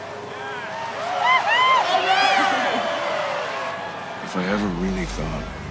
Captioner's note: crowd cheering